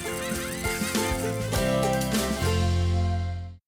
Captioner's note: animals laughing; animals squeaking